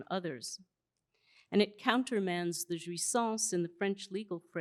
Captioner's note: speaking french